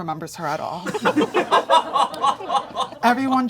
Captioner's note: audience laughing